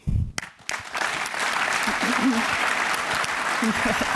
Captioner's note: applause